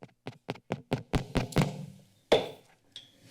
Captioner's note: tapping of mic